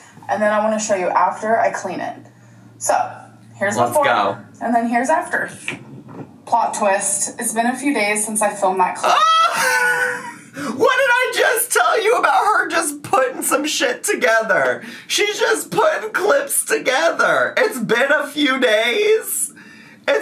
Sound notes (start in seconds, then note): 9.1 laughing